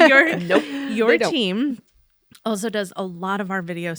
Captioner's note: laughs